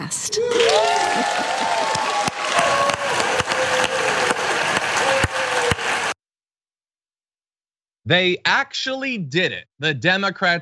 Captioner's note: applause